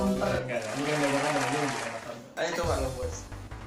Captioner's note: clap